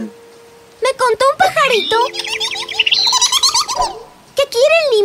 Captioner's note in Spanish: Sonido de pájaro